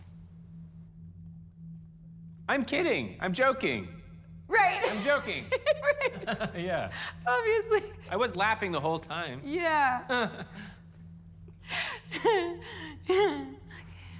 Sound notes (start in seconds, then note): 4.8 laughs; 4.8 max chuckles; 11.8 chuckles; 12.1 chuckles awkwardly